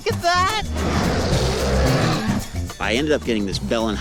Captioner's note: roaring